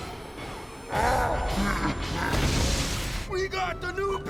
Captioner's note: grunting